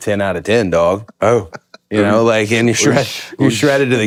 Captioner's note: Finn laughs